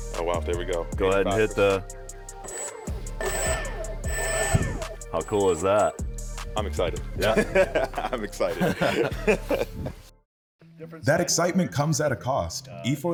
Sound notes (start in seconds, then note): 2.3 rotor whirring